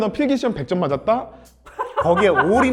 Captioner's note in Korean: 비웃음